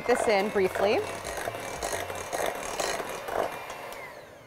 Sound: mixer whirring

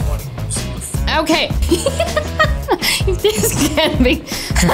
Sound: laughter

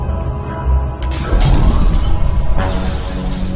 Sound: glass shattering

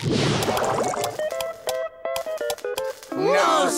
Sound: clicking

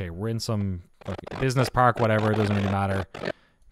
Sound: distortion

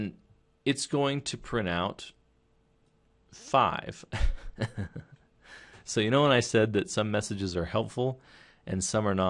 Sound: chuckle

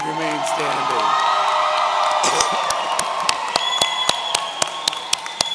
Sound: audience cheering

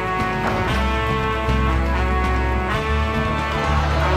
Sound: backboard clanks; audience groaning

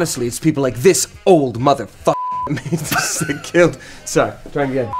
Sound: beep

